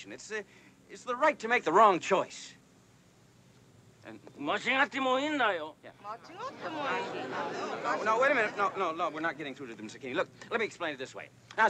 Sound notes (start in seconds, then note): 4.1 speaking Japanese; 6.0 indistinct chattering